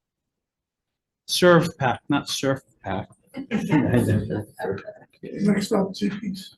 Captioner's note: Senators laughs